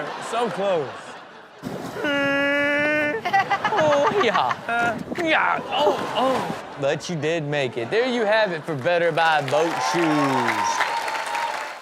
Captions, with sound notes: - So close. (Rob screeching) - Oh, but you did make it. There you have it for "Better Buy Boat Shoes" (audience cheers)